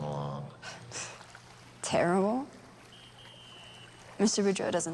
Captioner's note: scoffs